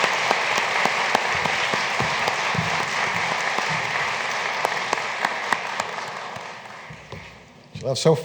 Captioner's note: applause